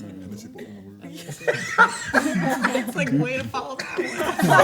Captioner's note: everyone laughs